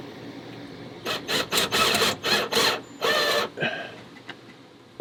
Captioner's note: drilling sounds